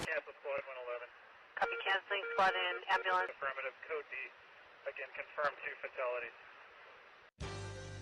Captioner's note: police radio